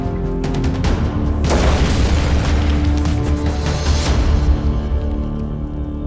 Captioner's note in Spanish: Explosión